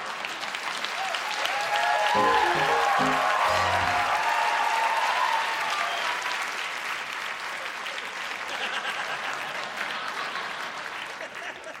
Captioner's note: applause